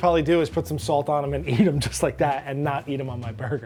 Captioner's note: laughs